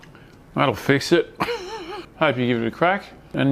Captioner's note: laughs